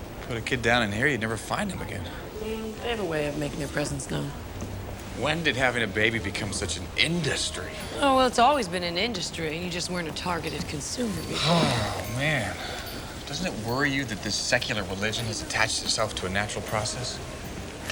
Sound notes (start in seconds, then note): 11.1 sighs